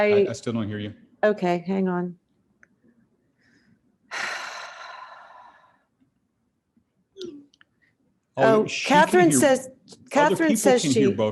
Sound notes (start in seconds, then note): 4.1 sighs